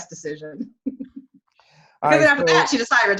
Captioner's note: murmurs